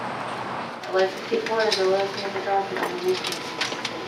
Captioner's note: speaks faintly